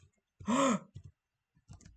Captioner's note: gasp